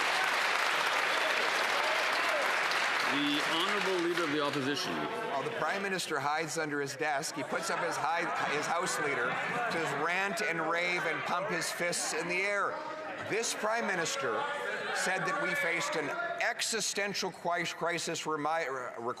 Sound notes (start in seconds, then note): 5.8 some Applause